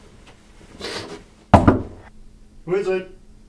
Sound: knock

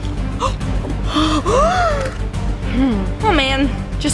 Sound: dramatic music; gasps

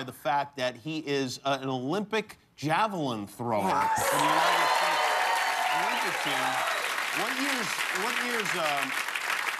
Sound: cheers and applause

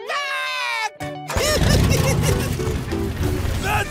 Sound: giggling

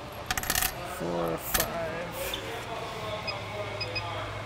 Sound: beeping

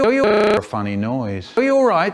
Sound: funny noise

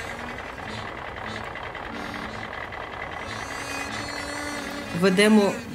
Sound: tractor rumbling

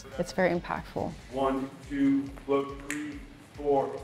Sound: fingers snapping

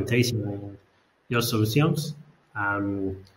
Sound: speaks in foreign language

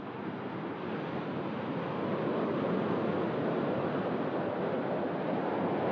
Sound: water Waves Sound

